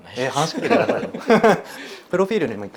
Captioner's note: laughs